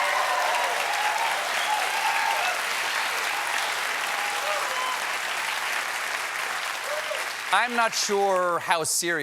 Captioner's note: cheers and applause